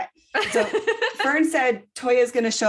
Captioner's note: laughter